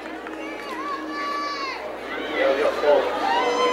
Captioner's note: woman shouting